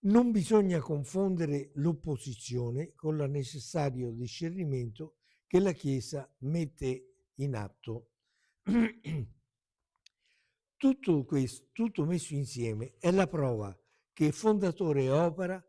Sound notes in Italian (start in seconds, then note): 8.6 schiarire la voce; 8.6 tosse